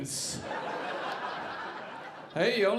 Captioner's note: audience laughing